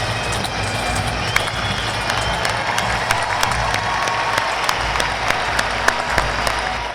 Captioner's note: audience cheering and applauding